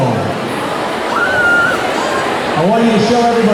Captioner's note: crowd chattering